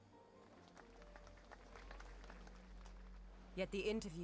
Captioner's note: audience applauds